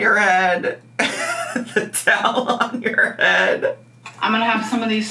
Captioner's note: laughing